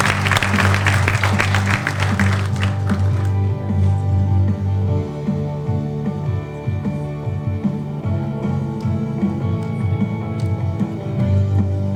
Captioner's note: applause